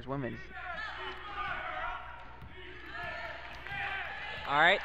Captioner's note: crowd cheers